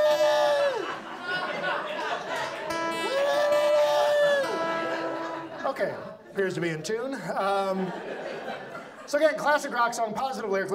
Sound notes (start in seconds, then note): 4.2 audience laughs; 5.7 humming badly and playing guitar